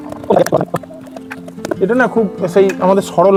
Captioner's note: sound of pipes being fitted